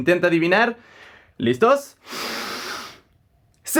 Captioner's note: inhales deeply